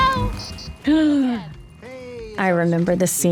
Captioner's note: gasps